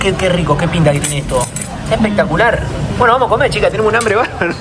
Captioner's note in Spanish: risas